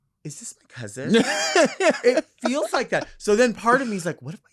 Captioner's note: laughing